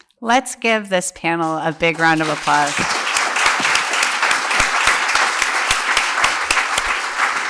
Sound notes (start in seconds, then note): 1.4 applause